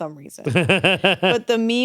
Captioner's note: chuckles